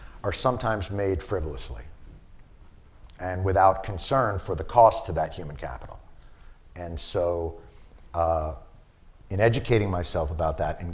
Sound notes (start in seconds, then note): none